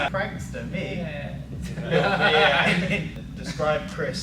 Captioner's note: laughter